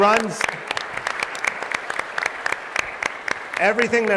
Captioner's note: applause